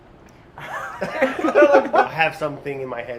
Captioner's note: laughs